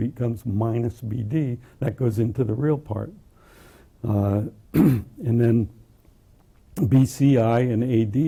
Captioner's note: cough